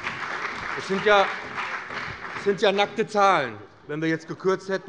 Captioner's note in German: Beifall bei dem BÜNDNIS 90/DIE GRÜNEN und der CDU